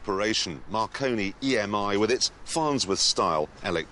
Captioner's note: none